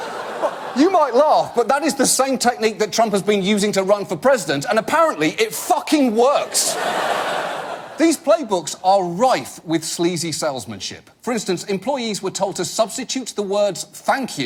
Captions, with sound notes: -(AUDIENCE LAUGH) -You might laugh, but that is the same technique that Trump has been using to run for president, and apparently, -it fucking works! -(AUDIENCE LAUGH) These playbooks are rife with sleazy salesmanship. For instance, employees were told to substitute the words